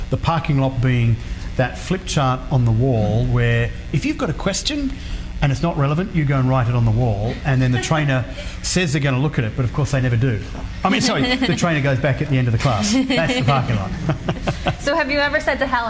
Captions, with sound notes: the parking lot being that flip chart on the wall where if you've got a question and it's not relevant you go and write it on the wall and then the trainer says they're gonna look at it but of course, they never do. I mean, sorry, the trainers goes back at the end of the class. That's the parking lot. (laughs) - So, have you ever said to hell